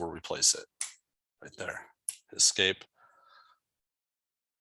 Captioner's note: mouse click